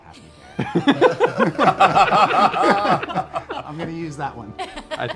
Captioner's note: laughter